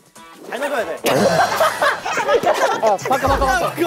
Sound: burst out in laughter

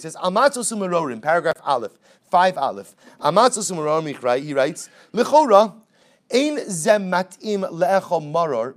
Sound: Hebrew; Hebrew

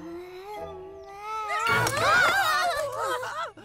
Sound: both exclaim

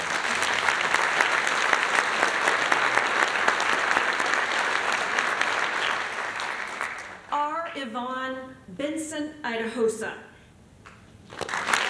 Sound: applause

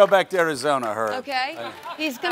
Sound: audience applauds

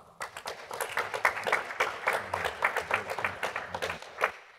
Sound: applause

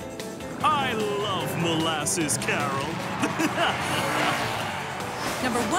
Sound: laughs

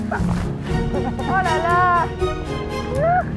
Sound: chuckles

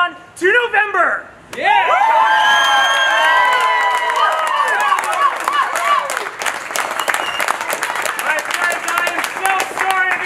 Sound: applause

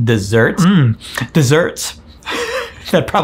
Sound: laughs

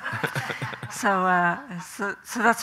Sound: Graham chuckling; audience chuckling

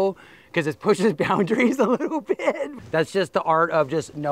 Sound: laughs

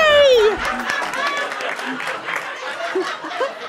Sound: applause

